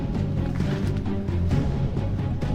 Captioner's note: rustles